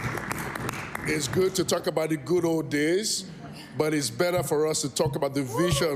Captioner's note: cheering/Applause